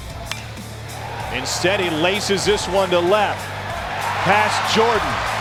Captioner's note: voiceover